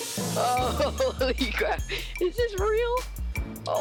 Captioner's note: chuckles